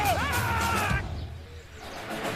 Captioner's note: screams